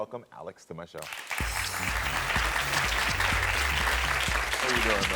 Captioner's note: audience applauding